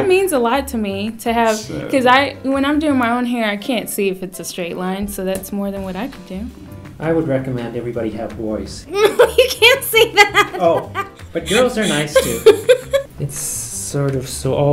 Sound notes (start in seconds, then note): 8.9 laughs